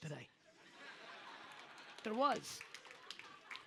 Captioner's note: audience laughs